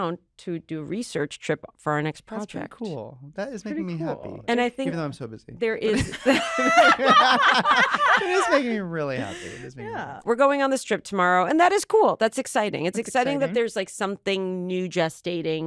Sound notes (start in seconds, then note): 5.9 laughter